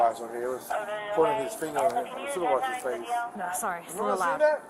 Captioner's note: radio chatter